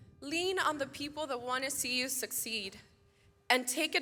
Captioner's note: none